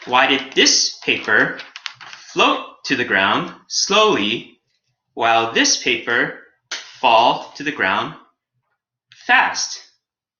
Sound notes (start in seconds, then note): none